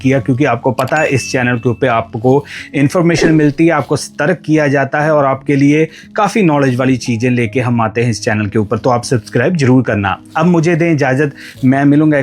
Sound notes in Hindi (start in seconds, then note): 3.1 गला साफ़ करने की आवाज़